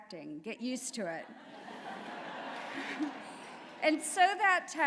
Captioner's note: laughter